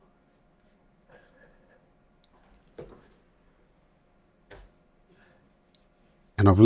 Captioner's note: silence